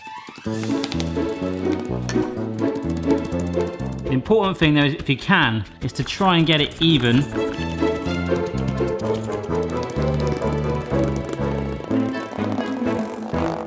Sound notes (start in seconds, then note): 0.1 upbeat, whimsical music; 7.5 tapping